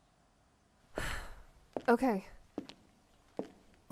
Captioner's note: sighs